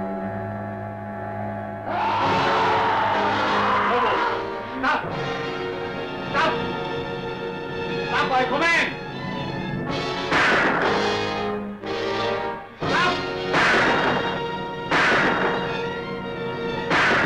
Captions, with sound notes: (Lobo screaming) - Lobo, stop it. Stop. Stop I command. (gun firing) Stop.